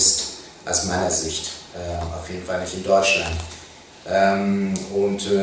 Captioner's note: German